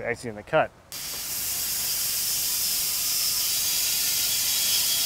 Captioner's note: saw buzzing